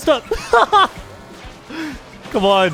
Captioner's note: laughs